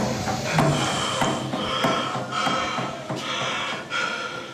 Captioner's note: Scott panting